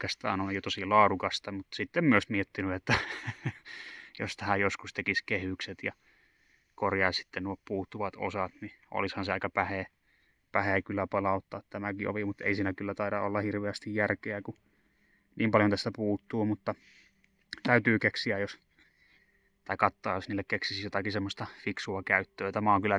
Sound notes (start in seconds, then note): 2.8 manic laughter